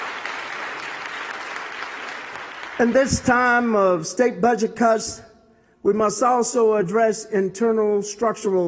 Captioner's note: applause